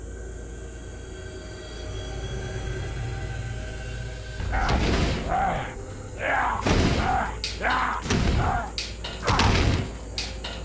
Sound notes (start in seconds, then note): 0.7 light dramatic music; 4.4 dramatic music; 4.4 man growling; 7.6 thudding